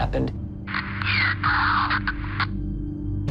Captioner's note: ghostly Voice